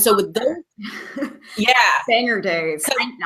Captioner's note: laughing